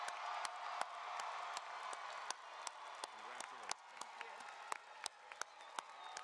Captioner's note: cheering and applause